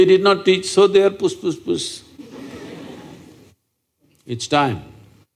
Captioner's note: laughter